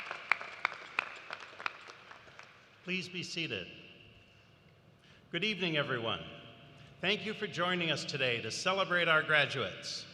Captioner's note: applause